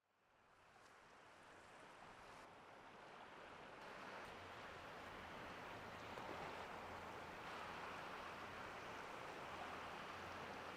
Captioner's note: waves lapping the shore